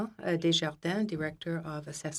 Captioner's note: speaking French